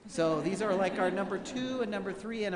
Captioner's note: laughing